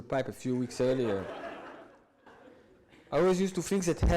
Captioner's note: audience laughs